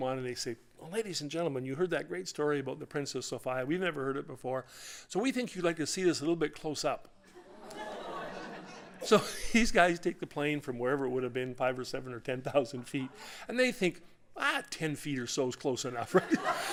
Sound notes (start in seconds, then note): 7.7 audience ohhs